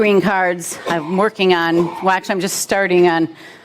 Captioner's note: murmurs